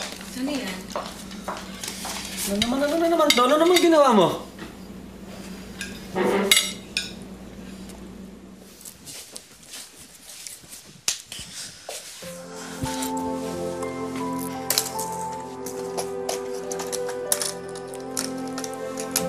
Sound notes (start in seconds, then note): 5.7 utensils clanking; 12.2 gloomy music playing; 15.6 rattling